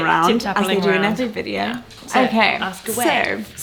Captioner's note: murmurs